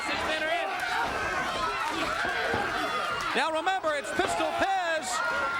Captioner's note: crowd chatter